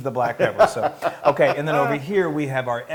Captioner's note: laugh